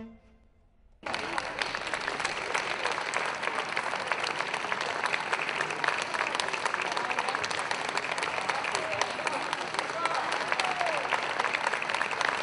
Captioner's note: people Clapping